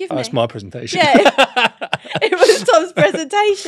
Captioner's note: laughs